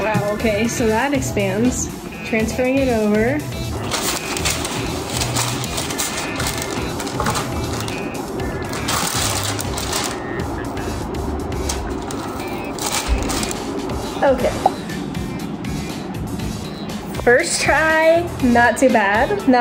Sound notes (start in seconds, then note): 3.7 parchment paper crinkles